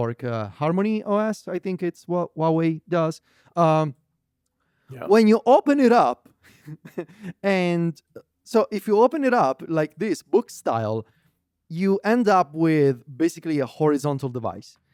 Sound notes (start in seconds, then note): 6.5 laughs